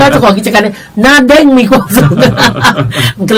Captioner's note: both laughing